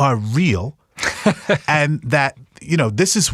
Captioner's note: laughing